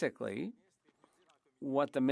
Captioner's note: speaking French